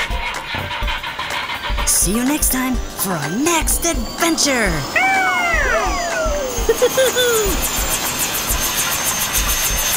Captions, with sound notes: (engine starting) See you next time for our next adventure. (Gigglebots scream) (Dr. McTinker laughs)